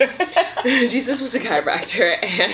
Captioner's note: laughs